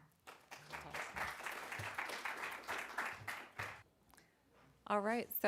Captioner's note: applause